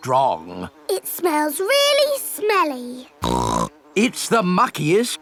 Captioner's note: snorts